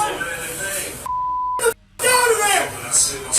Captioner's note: beep